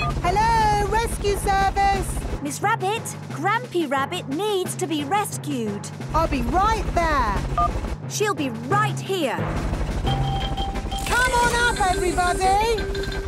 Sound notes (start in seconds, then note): 7.2 phone beeps; 9.4 distant helicopter noise